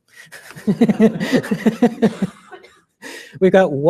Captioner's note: laughter